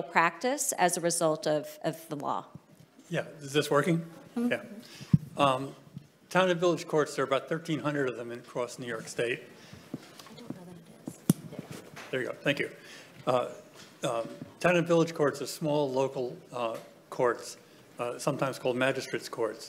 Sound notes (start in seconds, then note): none